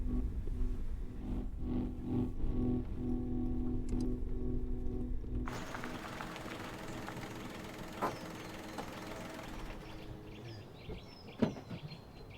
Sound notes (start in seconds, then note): 8.1 engine idling and stopping